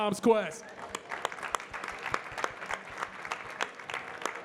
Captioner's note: audience clapping